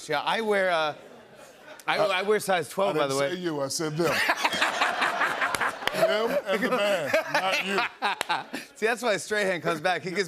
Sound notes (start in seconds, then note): 4.0 laughter